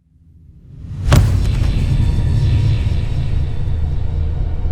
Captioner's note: thumping; suspenseful music